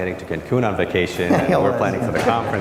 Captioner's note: laughs